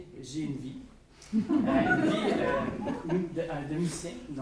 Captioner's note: laughs